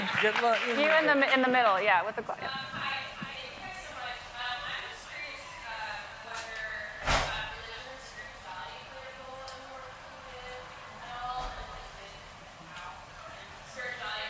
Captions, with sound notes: - You in the middle, yeah, with the-- - [Woman's Voice] Yeah, hi, thanks so much. I'm just curious whether religion or spirituality play a role in the work you did at all? (murmuring)